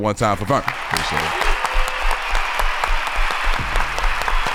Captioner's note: applauding